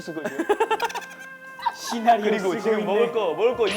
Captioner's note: laughing